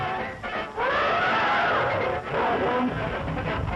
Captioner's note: elephant trumpets